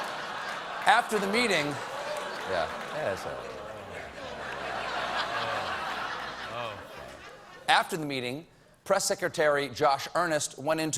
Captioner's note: laughter